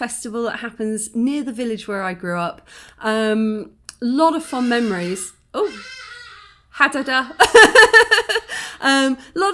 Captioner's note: laughing; loud bird